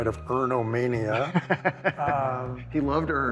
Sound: laughs

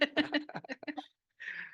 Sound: laughs

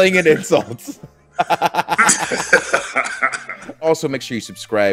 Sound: laugh

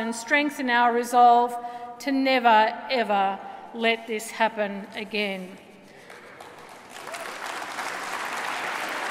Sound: applause

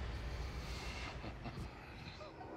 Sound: chuckling

